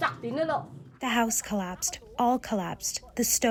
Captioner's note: through translator